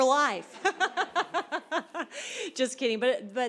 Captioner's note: laughter